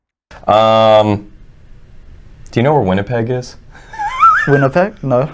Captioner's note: laughs